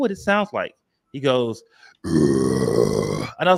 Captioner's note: growling